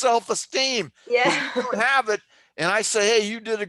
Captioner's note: laughter